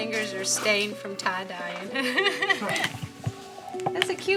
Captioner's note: laughs